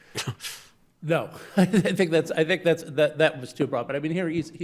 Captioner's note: chuckles